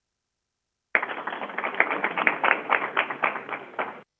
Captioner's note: crowd applauding